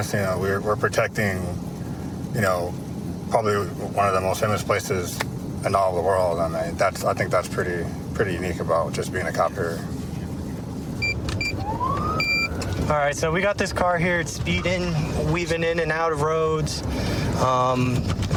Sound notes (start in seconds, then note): 10.3 buttons beeping